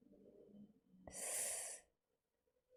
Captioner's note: sharp inhale